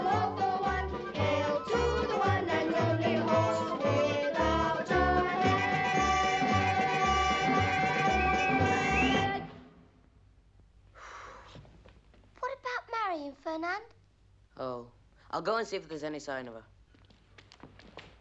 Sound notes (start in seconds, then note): 10.9 all sigh